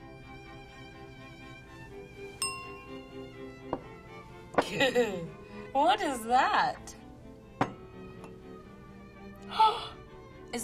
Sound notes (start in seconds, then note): 0.1 stately orchestral music; 2.4 bell chiming; 4.7 laughing